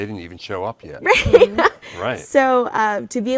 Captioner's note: laughs